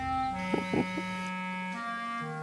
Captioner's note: Eduardito laughs